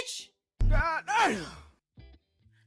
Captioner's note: grunts